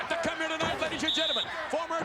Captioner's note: referee whistling